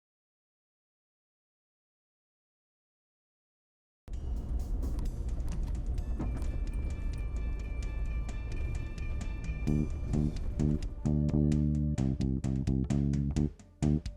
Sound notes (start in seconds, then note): 4.1 tires rumble; 4.1 soft upbeat music; 10.0 upbeat music